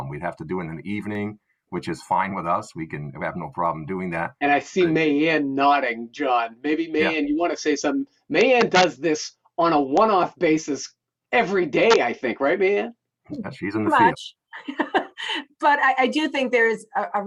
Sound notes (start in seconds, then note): 13.4 laughing